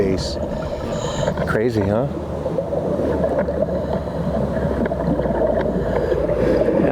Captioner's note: water bubbling loudly